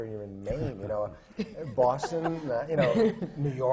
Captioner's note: laughter from the panel